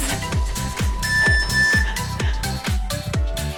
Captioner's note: timer beeps; cheerful music